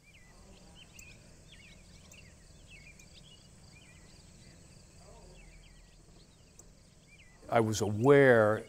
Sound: chirping

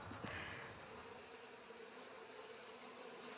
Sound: humming

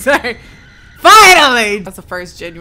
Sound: laughing; screaming continues

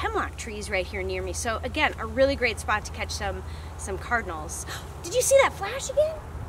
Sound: gasp

